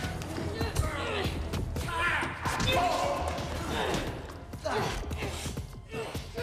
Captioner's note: people groaning; blows thudding